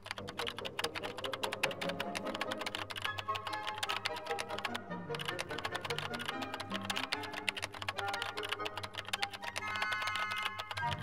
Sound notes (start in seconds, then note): 0.2 dramatic music; 5.1 keyboard tapping; 7.8 suspenseful music